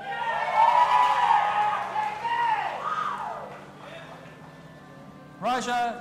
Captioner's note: audience applauding and cheering